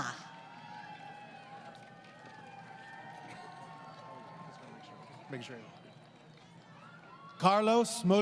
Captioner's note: crowd Cheering